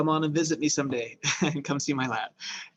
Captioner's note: chuckles